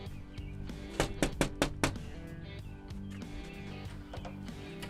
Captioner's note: knocking